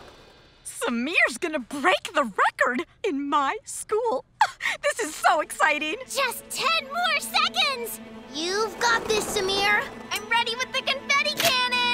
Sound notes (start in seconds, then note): 3.8 chuckles